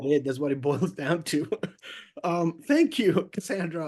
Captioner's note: laughs